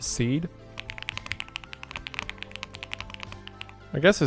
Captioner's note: keys tapping